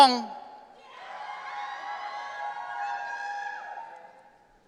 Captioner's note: audience cheering